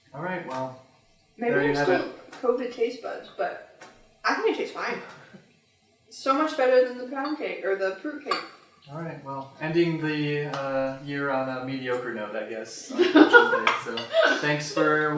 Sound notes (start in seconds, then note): 12.9 laughter; 13.0 continued laughter